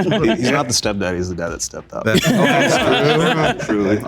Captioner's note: group laughing; group laughing